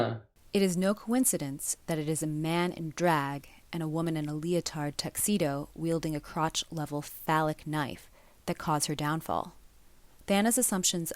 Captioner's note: different voice reads onscreen text